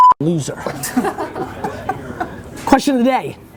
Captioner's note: laughing